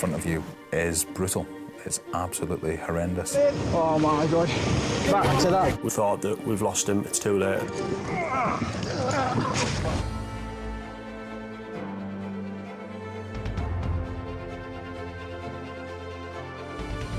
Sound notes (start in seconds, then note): 7.8 crew and casualty grunting; 10.1 lighthearted music